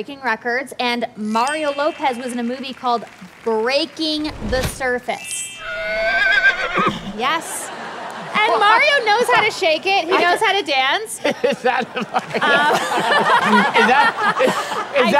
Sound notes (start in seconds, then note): 5.6 whinnying; 11.2 laughing